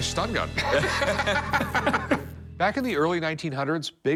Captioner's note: laughter